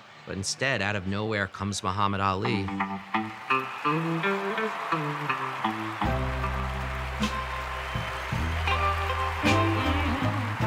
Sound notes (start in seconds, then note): 2.5 upbeat jazz music; 2.8 audience applauds